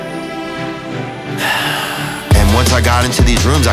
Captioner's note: Theo sighs